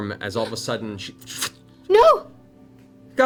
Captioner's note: flickering sound